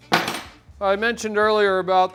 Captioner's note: tool hits table